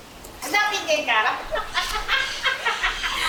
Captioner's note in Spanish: risas